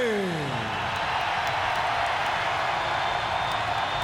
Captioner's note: crowd cheering